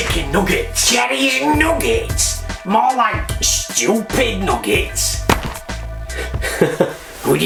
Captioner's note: laughs